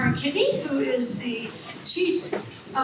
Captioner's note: none